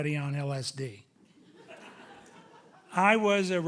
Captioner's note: audience chuckling